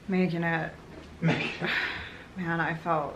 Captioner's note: sighs